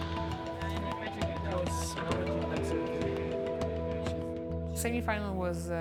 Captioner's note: people chattering